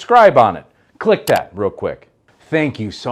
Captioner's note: mouse clicks